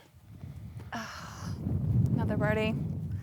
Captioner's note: sighs